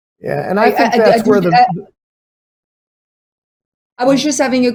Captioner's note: group chatter